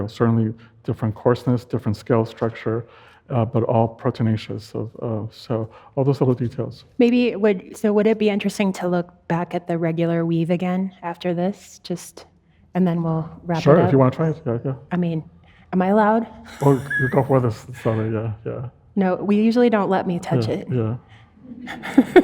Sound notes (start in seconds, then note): 16.5 laughs